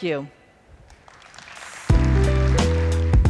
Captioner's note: applause